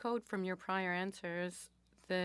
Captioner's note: speaking French